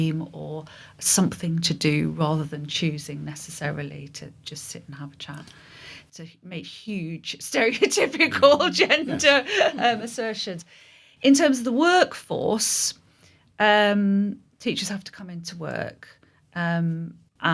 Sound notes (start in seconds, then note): 8.3 laughing